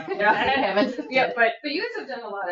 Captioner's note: laughter